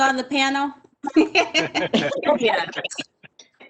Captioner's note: all laughing